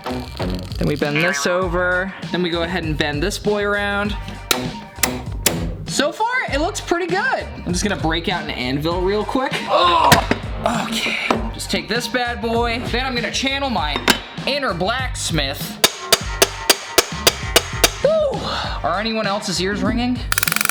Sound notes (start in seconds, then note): 4.2 wire cutters snipping; 9.7 groaning; 15.7 hammer clanging; 20.4 hammer clanging